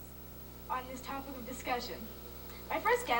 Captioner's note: audio from tape